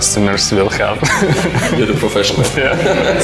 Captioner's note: laughs